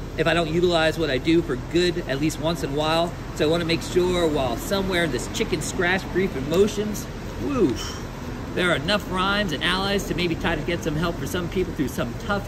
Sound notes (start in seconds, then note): 7.7 whew!